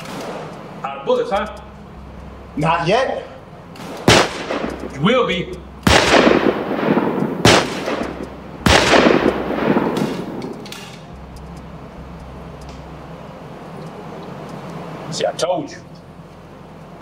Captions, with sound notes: - Outta bullets huh? - Not yet. (guns firing) - You will be. (guns firing) See, I told you.